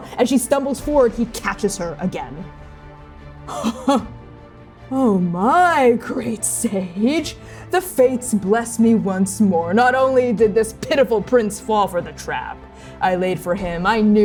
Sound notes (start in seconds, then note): 3.5 laughing